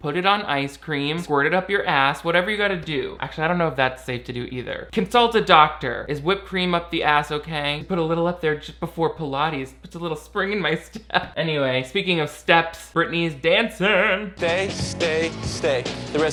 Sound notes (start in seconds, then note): 10.9 chuckles